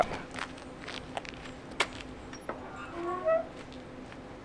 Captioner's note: footsteps; gate opening and closing